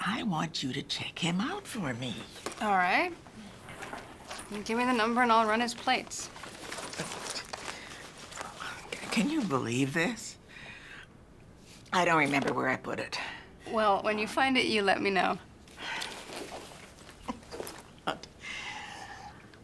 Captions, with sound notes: Now I want you to check him out for me. - All right. Give me the number and I'll run his plates. (rustling) - Can you believe this? I don't remember where I put it. - Well, when you find it, you let me know. (sighs) (laughs)